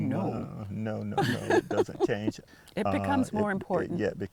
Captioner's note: laughter